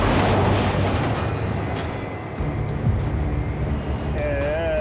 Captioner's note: metal screeching